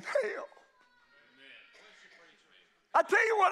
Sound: congregation shouts agreement

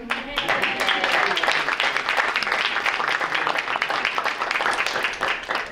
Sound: group applauding

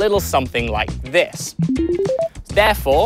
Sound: beeping sounds

